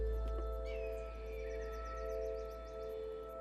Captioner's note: birds squawking